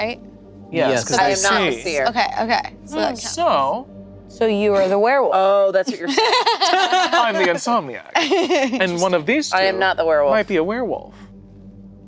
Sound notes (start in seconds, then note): 5.8 group laughing